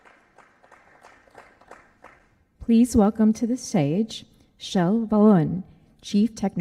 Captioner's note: applause